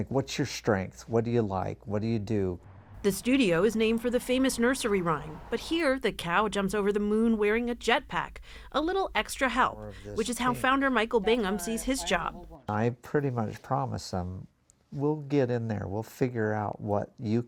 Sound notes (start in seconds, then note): 3.4 voice-over